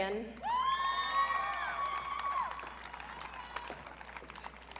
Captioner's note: audience cheering